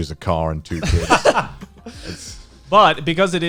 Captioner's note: guys laughing